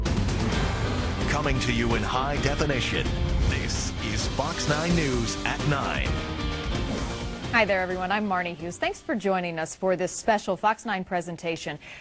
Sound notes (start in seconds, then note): 1.4 voiceover